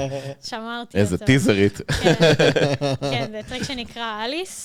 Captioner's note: laugh